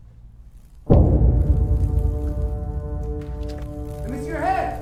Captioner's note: light buzzing; dramatic, jarring music